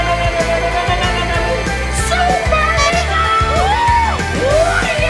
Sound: people laughing; horn honking

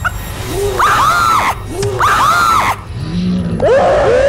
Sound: screaming

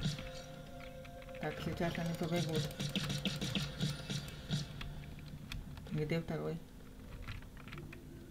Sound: shots

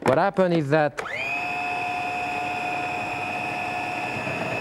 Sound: processor whining

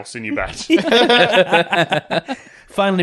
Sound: laughter

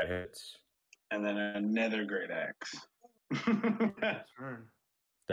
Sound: chuckling

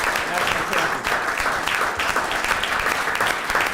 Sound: applause

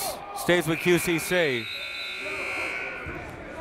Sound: buzzer; whistle

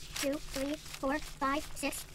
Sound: bills shuffling

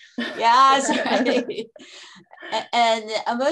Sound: laughter

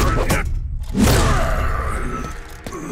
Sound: grunting

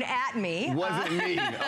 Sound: laughter

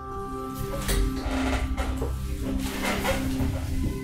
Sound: beautiful, soothing chime and bell music; chair creaks

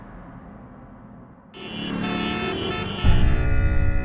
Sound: traffic noises

